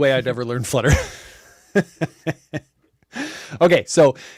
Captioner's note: laughs